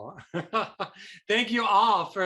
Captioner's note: chuckles